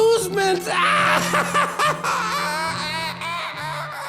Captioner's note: laughs maniacally